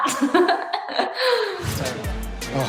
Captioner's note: laughs